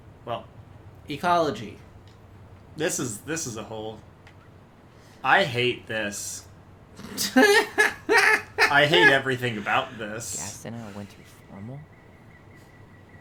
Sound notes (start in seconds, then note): 9.8 cackling